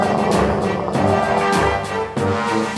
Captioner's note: growling